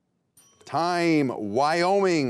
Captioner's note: timer rings